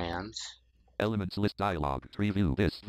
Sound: screen reader voice

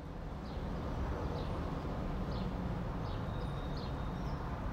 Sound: distant traffic noise

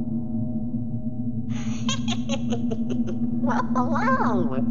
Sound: giggles

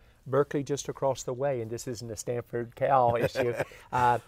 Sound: both laugh

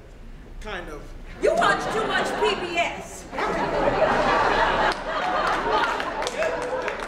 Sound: audience laughing

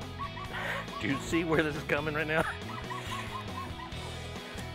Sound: chuckles

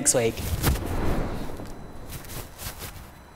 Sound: whooshing

